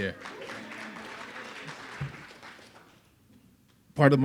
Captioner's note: audience applauding